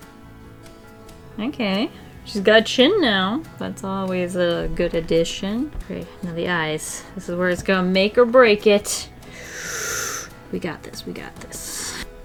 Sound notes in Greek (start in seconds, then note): 9.2 Βαθιά εισπνοή